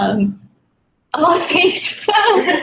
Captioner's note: laugh